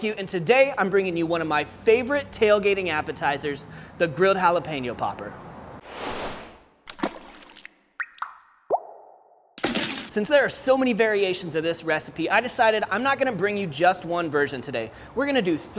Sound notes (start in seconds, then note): 6.8 splash